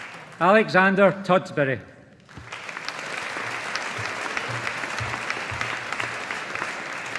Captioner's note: audience applauding